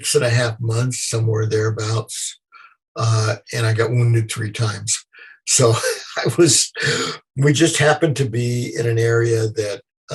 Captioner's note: laughter